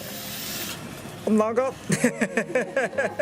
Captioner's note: laughs